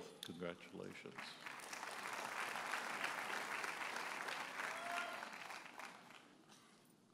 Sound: audience applauds

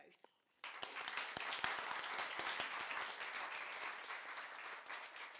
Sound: audience applauding

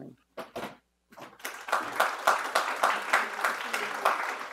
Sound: audience applauding; audience applause drowns out speech

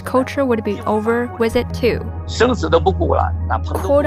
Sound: speaking Mandarin; speaking Mandarin

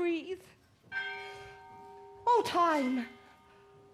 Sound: bell toils

